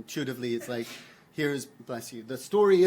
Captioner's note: attendee sneezes